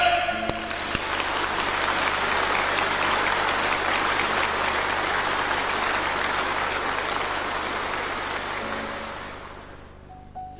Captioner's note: applause